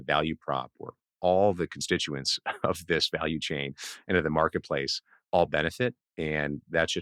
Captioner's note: laughs